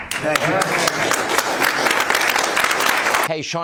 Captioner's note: laughter